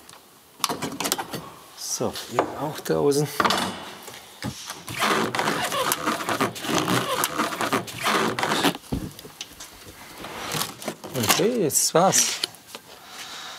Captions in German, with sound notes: So, auch draußen. (Quietschen) Okay, jetzt ... das war's.